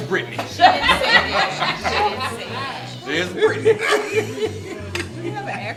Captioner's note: laughing